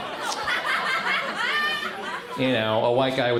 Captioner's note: crowd laughs